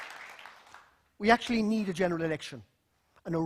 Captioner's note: applause